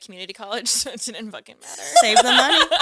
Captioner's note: laughs